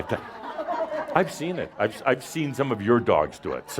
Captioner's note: someone says “Ohhh” and laughter as he sort of demonstrates